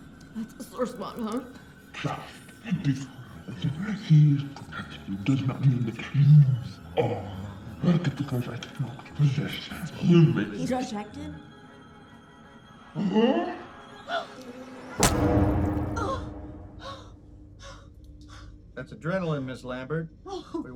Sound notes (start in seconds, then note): 15.0 fist punching; 16.2 Heather grunting